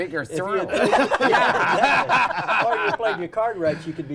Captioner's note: laughter